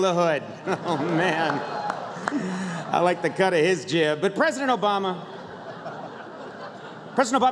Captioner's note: laughter